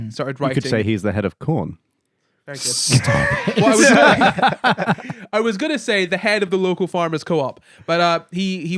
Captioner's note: laughing